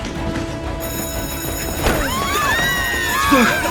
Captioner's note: bell ringing; screaming